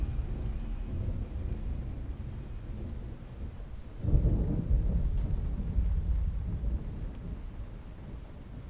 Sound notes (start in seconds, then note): 4.2 thunder rolling